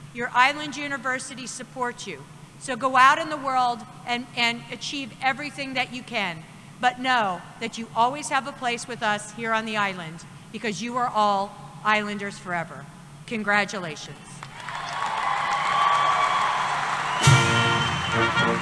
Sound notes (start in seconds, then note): 14.4 applause and Cheering